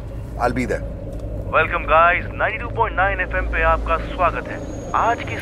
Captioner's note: Man on Radio